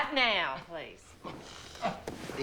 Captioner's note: gags